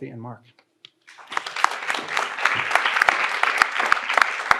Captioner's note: audience applauds